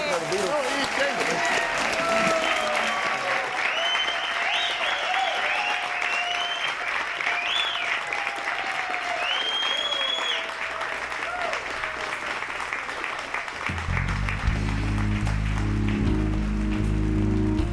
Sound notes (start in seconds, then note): 0.9 audience cheering and applauding; 8.7 audience continue cheering and applauding; 14.0 mellow music